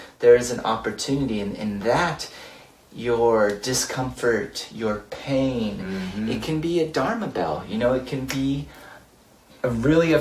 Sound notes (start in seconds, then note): 8.2 snaps